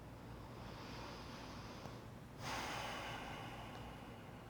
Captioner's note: breathing deeply